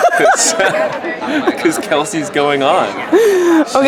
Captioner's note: laughing; laughs